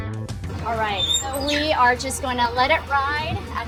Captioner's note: smoker door squeaks